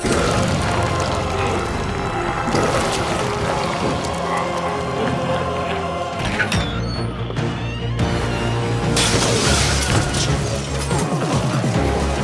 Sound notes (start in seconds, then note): 0.2 intense music; 6.1 door squeaks; 8.9 glass shatters